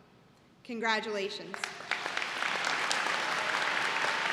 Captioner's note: applause